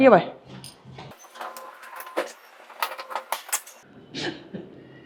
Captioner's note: sound of pushing a suitcase